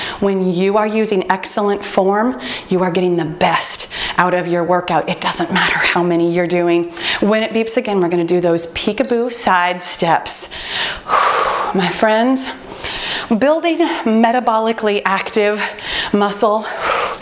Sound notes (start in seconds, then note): 12.6 exhales